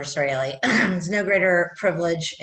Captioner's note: coughs